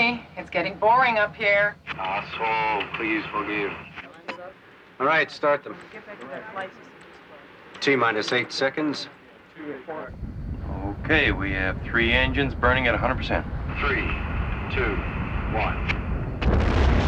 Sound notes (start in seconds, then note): 2.1 man On Radio; 14.5 man On Radio